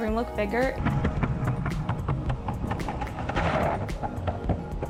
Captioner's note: wheels rolling